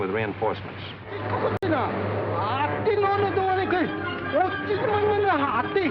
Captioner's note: speaking japanese